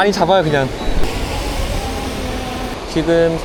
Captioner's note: drone coming back